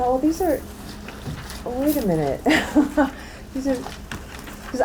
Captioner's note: laughs